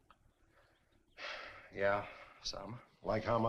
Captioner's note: sighs